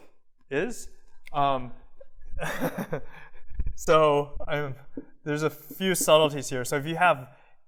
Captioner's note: laughter